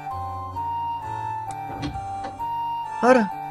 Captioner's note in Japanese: 扉の開く音：ガッチャン